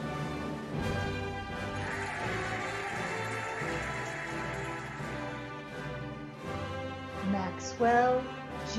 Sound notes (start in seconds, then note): 0.7 cheering and applauding